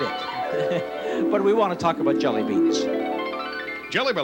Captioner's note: chuckling